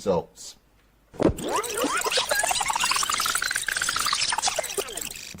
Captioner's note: tape squealing